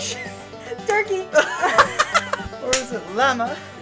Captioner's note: laughter; hands slapping